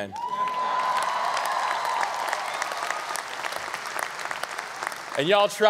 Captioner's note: audience clapping and cheering